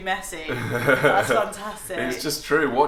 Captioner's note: laughs